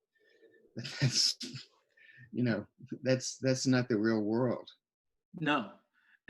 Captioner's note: scoffs